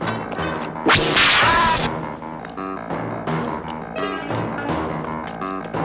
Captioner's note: yelling; zapping